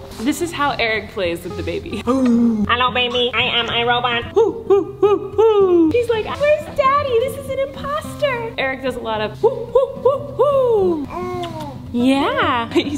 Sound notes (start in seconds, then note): 4.2 playfully cheering; 9.8 playfully cheering; 11.0 baby cooing